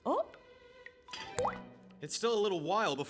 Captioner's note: plop